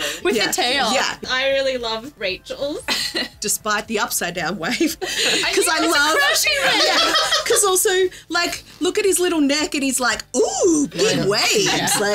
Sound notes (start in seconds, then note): 6.8 laughing